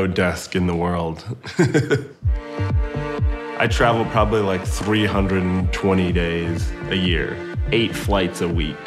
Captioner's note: laughs